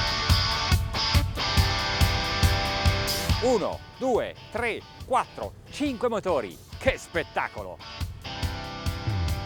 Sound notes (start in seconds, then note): 3.1 speaking foreign language